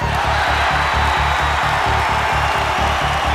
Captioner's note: crowd cheers